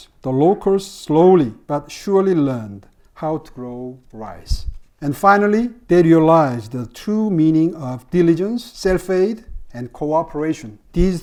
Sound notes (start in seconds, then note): none